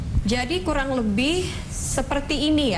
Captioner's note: non-english speech